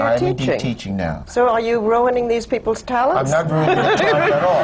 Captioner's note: laughter